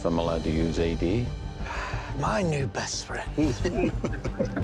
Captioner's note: exhales; chuckling